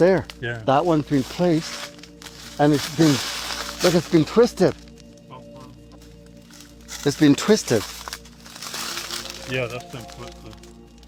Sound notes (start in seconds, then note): 5.3 indistinct chatter; 8.1 crackling sound